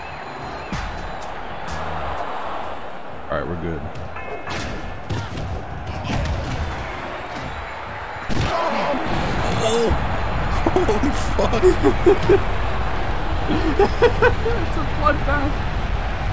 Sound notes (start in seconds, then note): 10.6 laughs